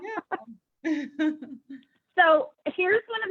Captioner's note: chuckles